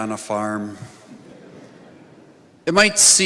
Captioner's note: audience laughing